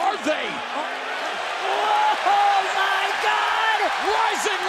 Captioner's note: crowd cheering